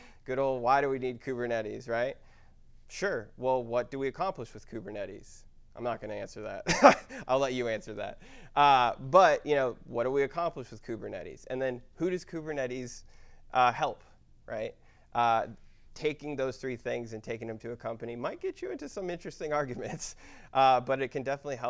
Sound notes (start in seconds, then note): 6.7 laugh